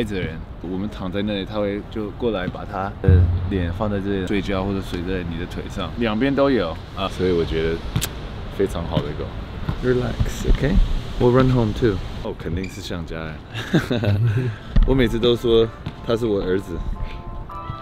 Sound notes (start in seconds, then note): 13.7 Laughs